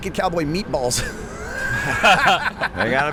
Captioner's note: laughter